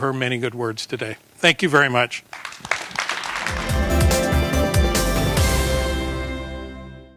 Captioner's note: applause